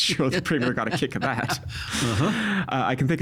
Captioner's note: chuckling